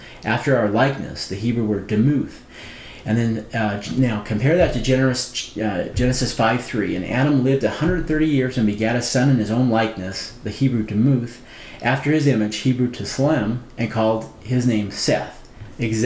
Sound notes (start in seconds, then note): none